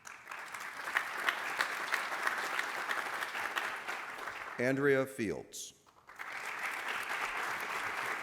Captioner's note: applause